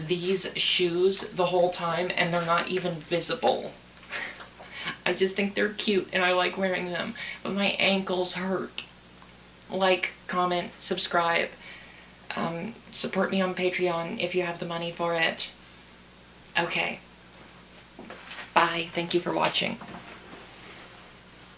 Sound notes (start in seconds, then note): 4.1 laughs